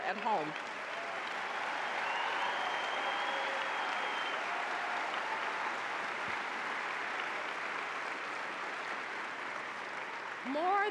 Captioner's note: applause